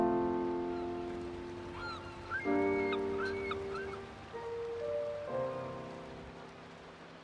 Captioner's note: nature sounds